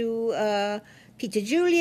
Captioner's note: speaking French